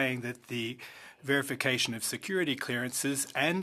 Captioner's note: speaking French